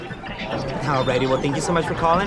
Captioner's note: clock machine noise